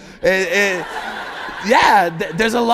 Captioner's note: laughter